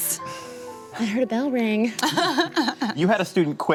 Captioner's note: chuckles